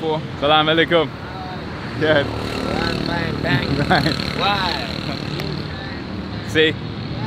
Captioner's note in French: Langue locale